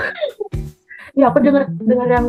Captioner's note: laugh